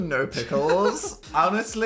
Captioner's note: Phil laughing